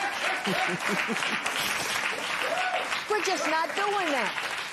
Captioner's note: applause